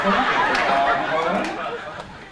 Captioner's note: laughter